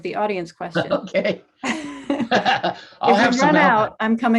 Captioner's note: both laughing